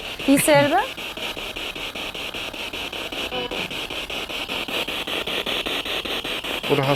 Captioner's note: sound of the Spirit Box in the background